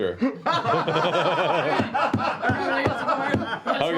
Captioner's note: laughter